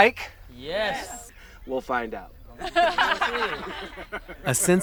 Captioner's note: group laughs